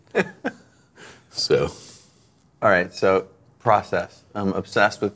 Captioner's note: laughing